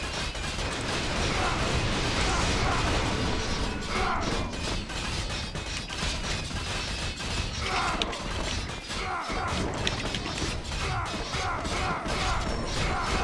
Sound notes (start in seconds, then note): 5.9 typing sounds